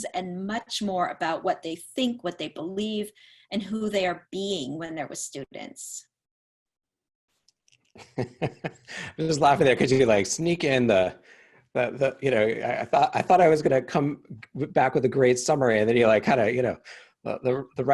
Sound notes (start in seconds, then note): 8.0 laughs